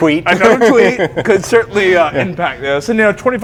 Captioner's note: laughs